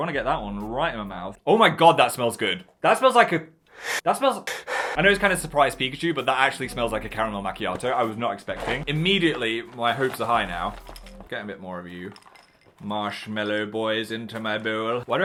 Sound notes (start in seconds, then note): 4.4 sniffs in sharply; 4.4 pants heavily